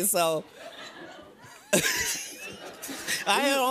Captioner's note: laughter